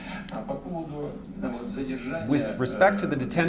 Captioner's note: speaking russian